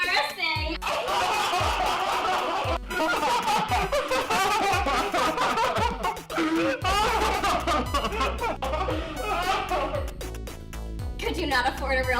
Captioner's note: loud laughter